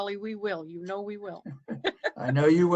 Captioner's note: laughter